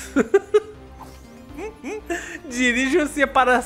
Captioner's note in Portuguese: risos